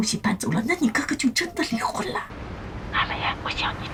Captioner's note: bam